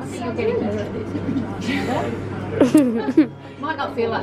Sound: laughter

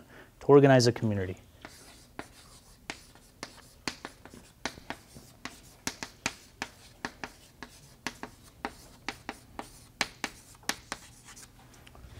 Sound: chalkboard writing

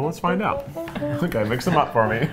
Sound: chuckling

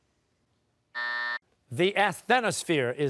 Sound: buzzer

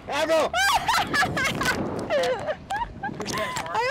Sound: laughing

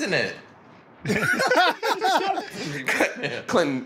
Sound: laughter

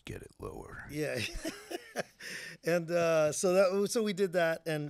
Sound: laughing

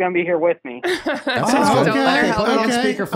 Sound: laughing

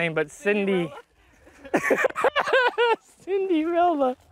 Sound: laughter

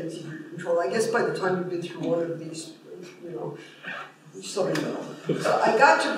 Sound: laughter

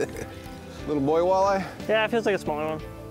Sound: laughs

